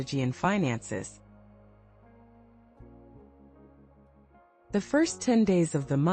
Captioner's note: pause